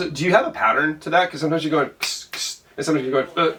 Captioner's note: imitates different drum beats; imitates drums